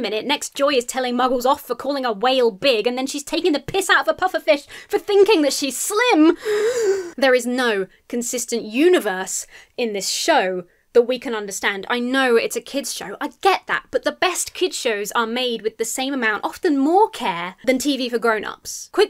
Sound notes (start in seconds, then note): 6.4 inhales sharply